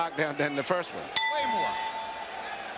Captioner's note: bell rings